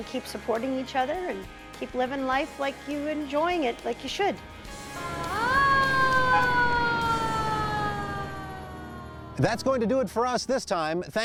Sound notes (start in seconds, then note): 5.5 siren sounds